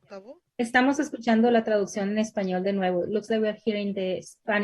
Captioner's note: speaking in Spanish